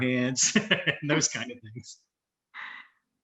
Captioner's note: chuckles